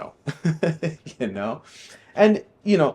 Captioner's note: laughing